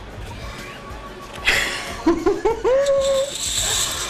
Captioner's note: laughing